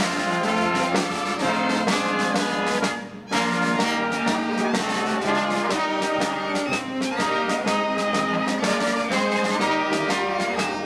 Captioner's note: crowd applauding and cheering